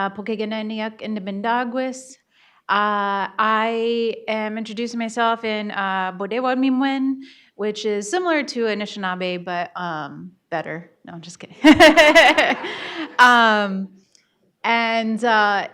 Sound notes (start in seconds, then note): 11.6 laughs